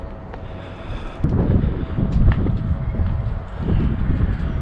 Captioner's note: wind blows